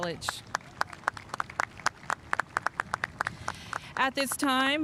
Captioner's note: spectators applauding